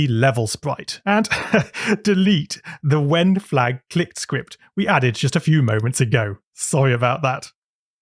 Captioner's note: laughs